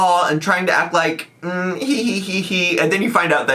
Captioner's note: hums